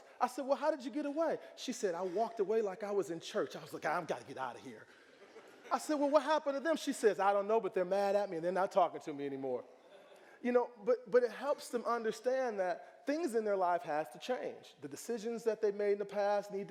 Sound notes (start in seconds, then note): 5.0 audience laughing; 9.8 audience chuckling